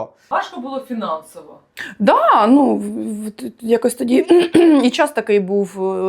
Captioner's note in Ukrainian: прочищення горла